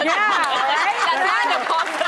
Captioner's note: laughter